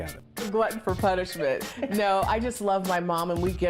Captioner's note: laughs